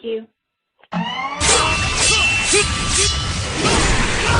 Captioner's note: loud sword slashing